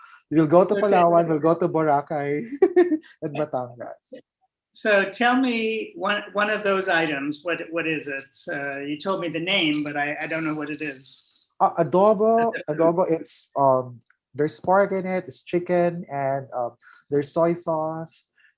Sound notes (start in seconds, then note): 2.4 laughs